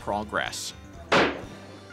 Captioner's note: gunshot